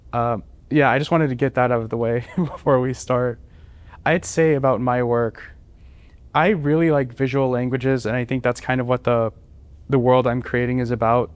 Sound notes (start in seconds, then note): 2.2 laughter